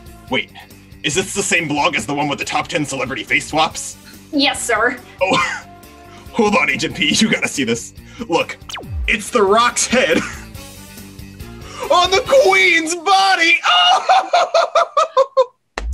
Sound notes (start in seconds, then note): 6.6 laughs; 13.5 laughs hysterically